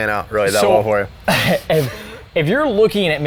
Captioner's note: chuckling